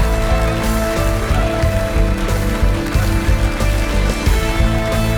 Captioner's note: applauses